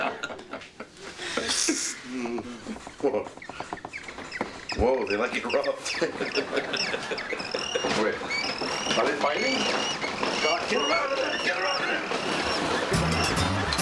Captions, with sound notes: [Chirping] Whoa, they like it rough. [Squawking] Wait. Are they fighting? [Loud Squawking] Get her out of there! Get her out of there!